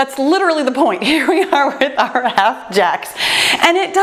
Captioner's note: laughs